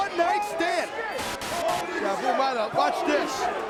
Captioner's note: static crackling